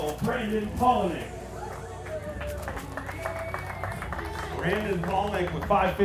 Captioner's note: applause